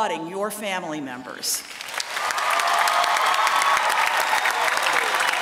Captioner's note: applause